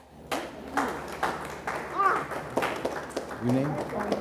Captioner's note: audience applauds